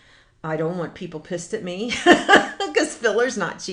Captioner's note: laughs